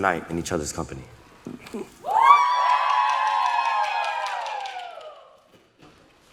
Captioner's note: applause